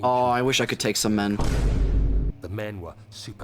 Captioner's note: Vine boom